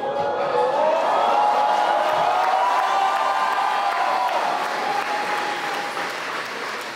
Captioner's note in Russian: аплодисменты и ликование